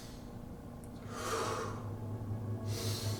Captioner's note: inhales; exhales; inhales